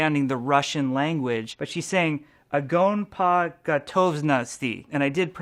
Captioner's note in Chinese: 俄文